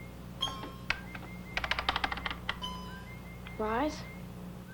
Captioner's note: computer keys clack